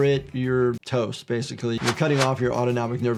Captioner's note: text graphics whoosh